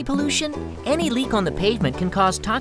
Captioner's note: oil dripping